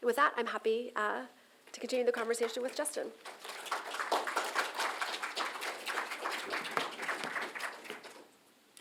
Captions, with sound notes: And with that, I'm happy to continue the conversation with Justin. [APPLAUSE]